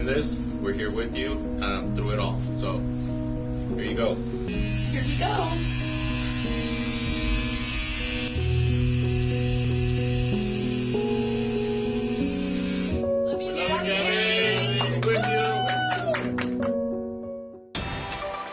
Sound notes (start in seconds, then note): 11.2 razor noise